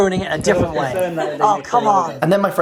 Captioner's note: laughing